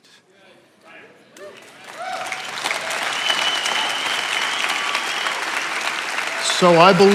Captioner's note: attendees applauding and cheering